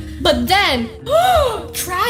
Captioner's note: dramatic gasp